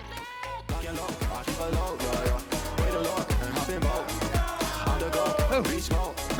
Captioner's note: upbeat pop music continues; fans in unison